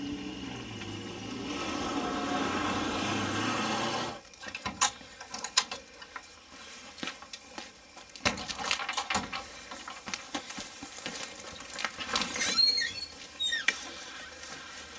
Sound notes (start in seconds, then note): 0.0 car engine running; 4.8 door opening; 6.4 rustling sound; 6.5 footsteps; 8.6 clattering sound; 12.0 door creaking